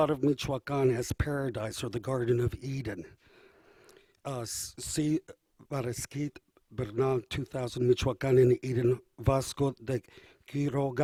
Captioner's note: speaking spanish